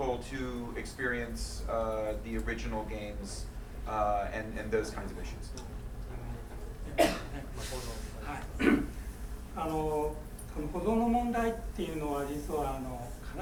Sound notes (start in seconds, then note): 7.1 speaking in foreign language